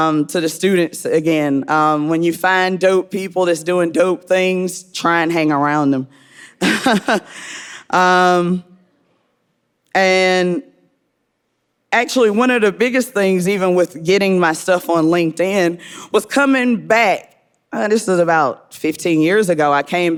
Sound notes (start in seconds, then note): 6.7 laughing